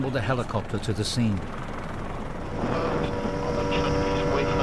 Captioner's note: helicopter whirring